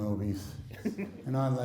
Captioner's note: laughing